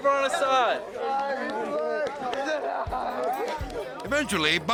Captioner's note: skaters chattering